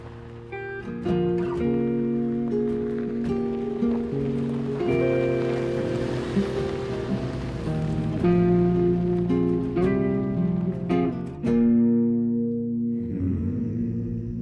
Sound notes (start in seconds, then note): none